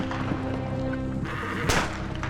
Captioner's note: men shouting; shooting outside